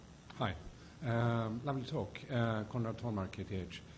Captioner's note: voiceover